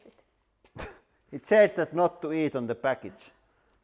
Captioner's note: laughs